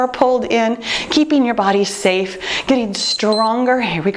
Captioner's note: timer beeps